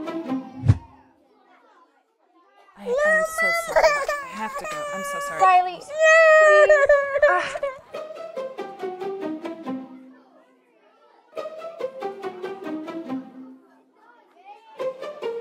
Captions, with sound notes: (girl crying) - I'm so sorry, I have to go. I'm so sorry. - Rylee, please.